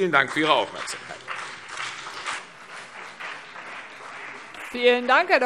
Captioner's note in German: Beifall CDU und BÜNDNIS 90/DIE GRÜNEN